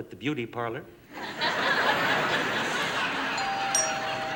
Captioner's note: doorbell rings; laughter